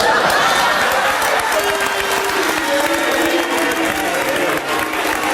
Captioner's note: audience laughs and applauds